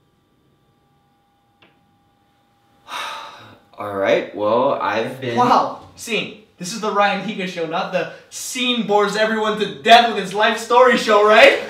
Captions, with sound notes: (sighing) Alright, well, I've been-- Time out! Sean, this is the Ryan Higa Show, not the Sean-Bores-Everyone-To-Death- With-His-Life-Story Show, right?